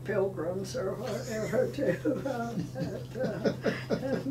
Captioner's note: laughing